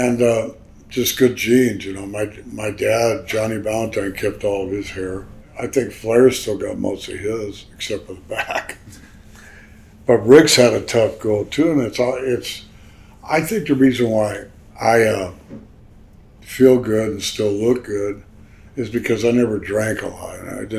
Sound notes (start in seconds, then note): 8.2 Greg chuckles